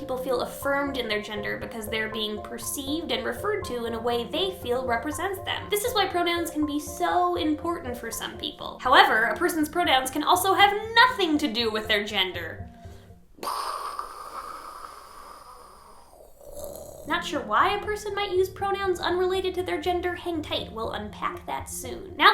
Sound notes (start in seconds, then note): 13.4 mimics explosion noise; 15.5 gargles